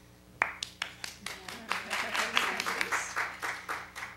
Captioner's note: clapping